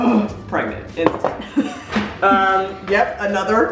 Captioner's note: laughing